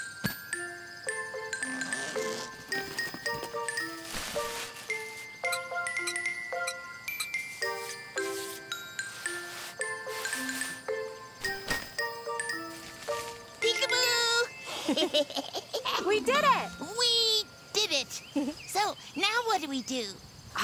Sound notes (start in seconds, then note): 0.1 gentle music; 14.7 Tobee laughing